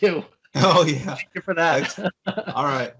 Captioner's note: laughs